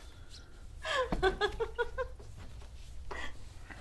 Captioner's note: laughter